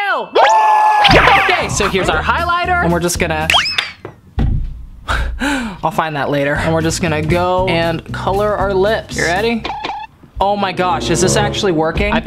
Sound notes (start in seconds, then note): 1.0 murmurs; 4.0 top pops off; 5.0 gasps